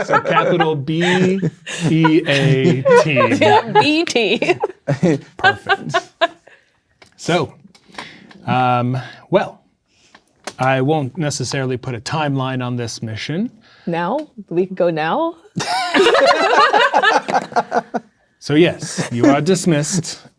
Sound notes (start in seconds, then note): 0.0 players laughing; 5.3 laughing; 15.6 players laughing